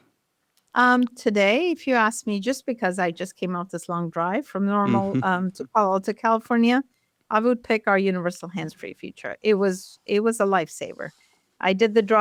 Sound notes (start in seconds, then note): 4.8 chuckles